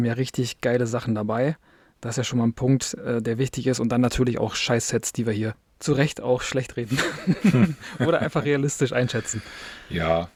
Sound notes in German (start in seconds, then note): 6.9 gelächter